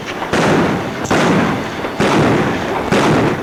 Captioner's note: guns bang